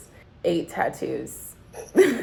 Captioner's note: laughs